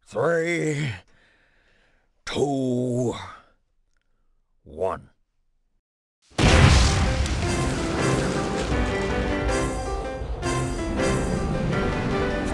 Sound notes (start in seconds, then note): 6.3 rocket launching; 7.0 optimistic piano music